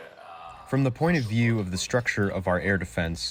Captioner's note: through translator